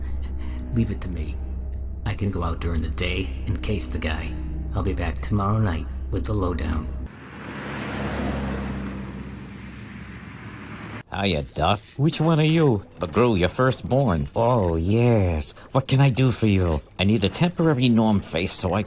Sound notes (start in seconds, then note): 0.3 chuckles; 7.0 car driving